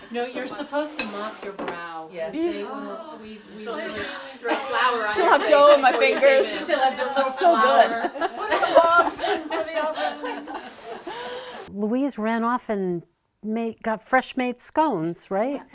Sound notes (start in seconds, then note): 2.3 sighing; 8.3 laughing